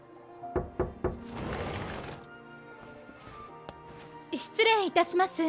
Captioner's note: knock-Knock…